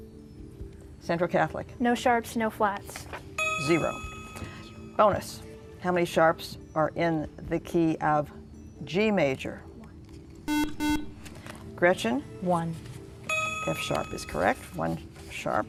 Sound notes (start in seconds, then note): 10.4 buzzer